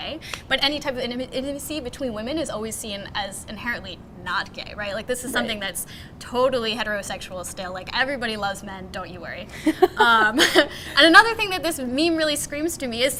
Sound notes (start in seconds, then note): 9.6 laughs